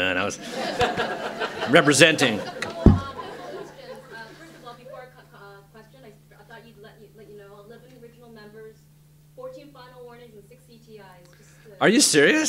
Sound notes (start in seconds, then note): 2.3 laughter